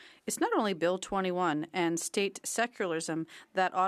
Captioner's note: speaking French